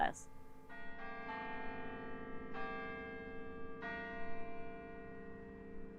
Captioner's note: bells pleasantly chiming